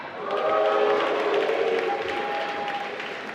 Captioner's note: applause